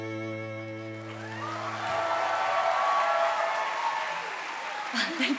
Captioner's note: audience cheering and applauding